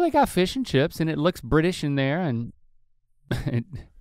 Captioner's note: chuckles